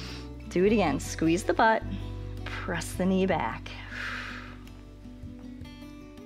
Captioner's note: inhales; exhales